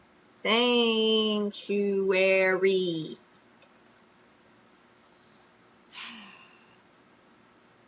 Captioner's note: exhales loudly